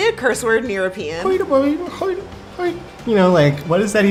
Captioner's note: mimicking non-english speech